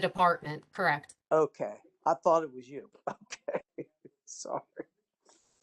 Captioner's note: laughter